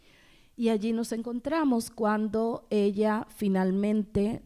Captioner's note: speaking spanish